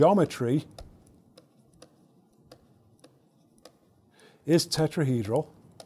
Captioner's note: stylus tapping against screen